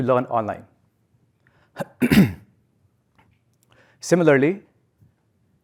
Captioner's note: cough